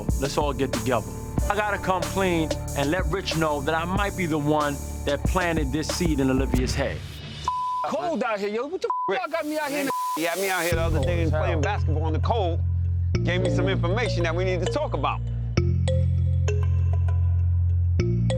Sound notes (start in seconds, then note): 7.4 beep; 9.3 beep